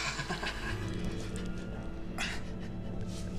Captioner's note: chuckles